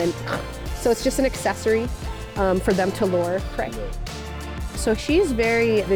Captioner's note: eating sound